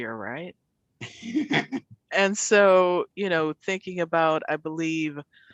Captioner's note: laughter